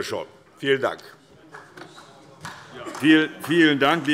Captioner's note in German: Heiterkeit